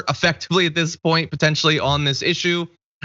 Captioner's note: laugh